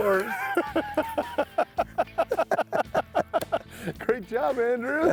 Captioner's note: both laughing